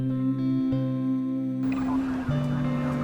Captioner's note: police radio chatter